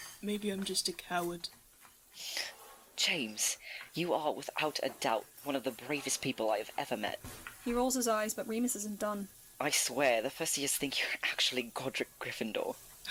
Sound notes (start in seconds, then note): 1.7 Remus makes a disbelieving noise